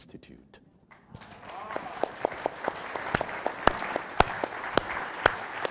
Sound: audience applauding

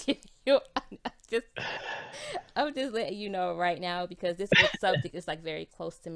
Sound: both laughs

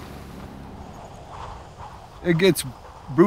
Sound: wind whipping

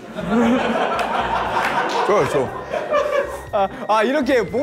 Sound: laughter of all staff

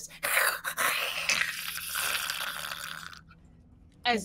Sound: Deborah hisses

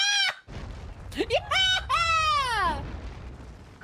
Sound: victory Cheer

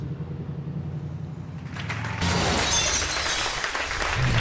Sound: audience applauding

